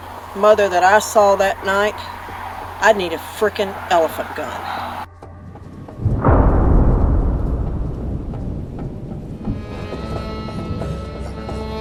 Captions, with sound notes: mother that I saw that night, I need a frickin elephant gun. [dramatic boom]